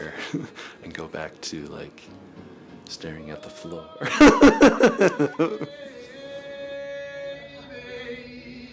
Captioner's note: laughs